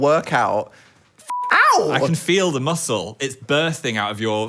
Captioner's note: beep